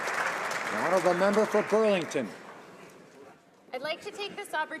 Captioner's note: some Applause